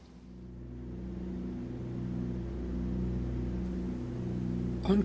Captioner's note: aircraft engines sounding